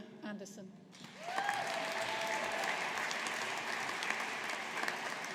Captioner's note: audience applauding